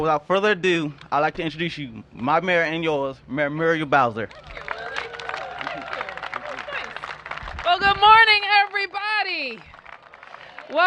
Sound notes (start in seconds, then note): 5.9 applause; 8.9 cheers and applause